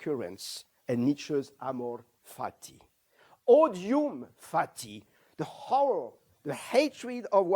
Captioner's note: non-english